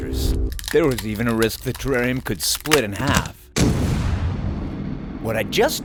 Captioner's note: cracking sounds, followed by explosion